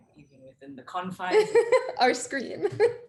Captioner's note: chuckles